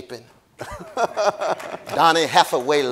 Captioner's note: laughing